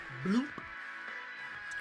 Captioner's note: bloop